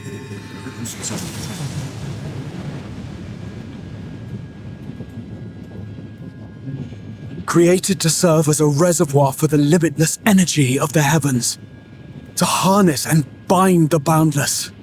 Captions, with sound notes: (dramatic music) (thunder rumbling) Created to serve as a reservoir for the limitless energy of the heavens, to harness and bind the boundless,